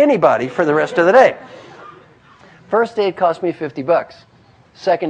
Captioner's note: laugh